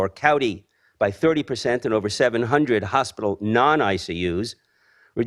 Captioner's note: none